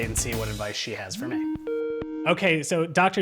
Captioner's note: skype ringtone